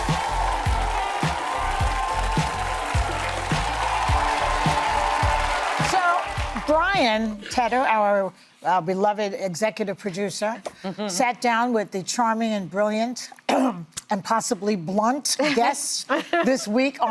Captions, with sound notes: [ Cheers and applause ] (audience cheering) So, Brian, Teta, our beloved executive producer, sat down with the charming and brilliant, and possibly blunt guests this week